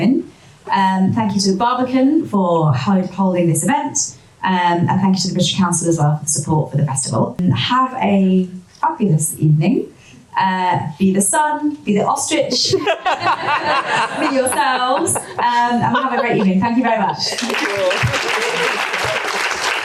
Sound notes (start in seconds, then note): 12.6 audience laughter; 17.3 audience applause